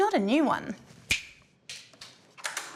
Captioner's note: clicks fingers